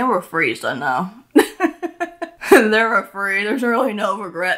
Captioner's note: laughs